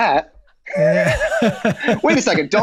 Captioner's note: Charlie, Megan laughing